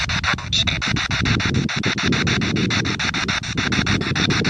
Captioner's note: spirit box sound